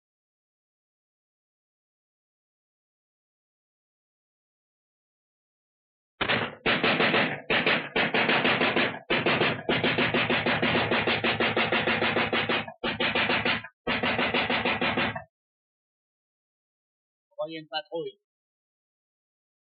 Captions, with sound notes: - [gunshot] - [machine gun fire] [gunfire stops] Envoyez une patrouille.